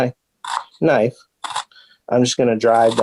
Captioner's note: knife scraping